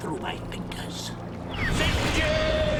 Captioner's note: ethereal woosh